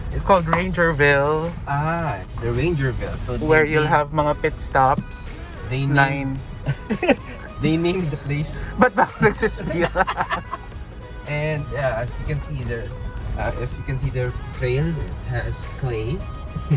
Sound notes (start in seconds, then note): 5.7 laughs; 8.6 both laughing